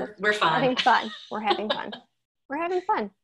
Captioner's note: laughing